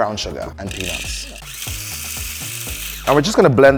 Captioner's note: food processor whirring